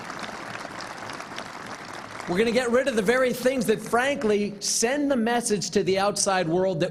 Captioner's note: applause